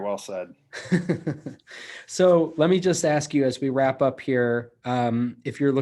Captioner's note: laughs